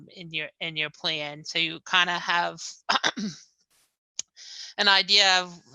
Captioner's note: clears throat